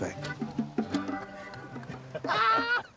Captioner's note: laughter